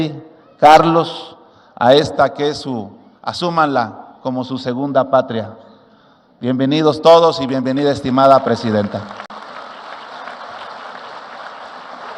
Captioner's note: laughs